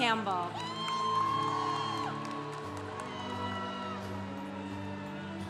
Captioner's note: congregation cheering